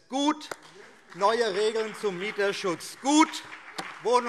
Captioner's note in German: Beifall BÜNDNIS 90/DIE GRÜNEN